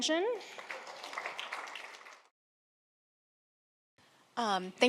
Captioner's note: audience applauds